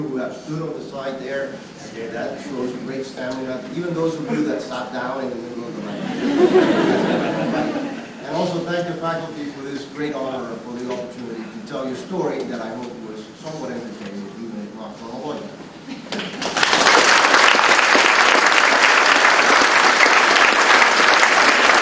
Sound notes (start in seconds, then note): 16.1 applause